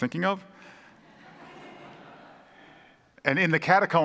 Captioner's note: congregation laughing